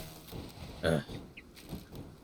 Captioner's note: annoyed grunt